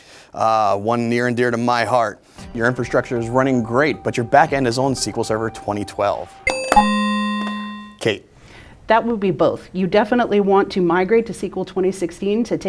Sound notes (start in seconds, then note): 6.4 ding; 6.4 low bell